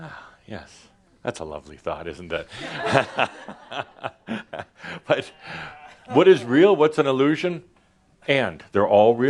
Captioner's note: some laughter